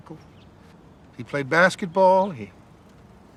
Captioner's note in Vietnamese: tiếng chim chiêm chiếp